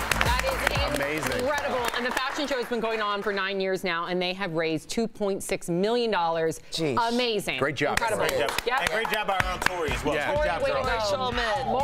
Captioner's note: cheers & applause